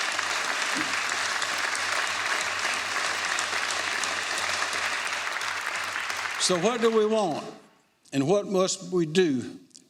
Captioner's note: applause